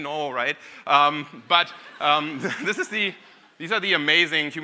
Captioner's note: audience laughing